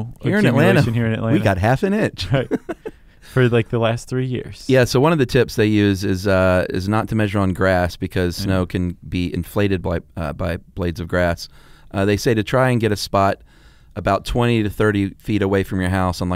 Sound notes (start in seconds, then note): 2.3 laughing